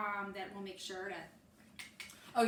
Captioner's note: makes clicking noise with tongue